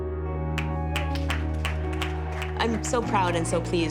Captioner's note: people clapping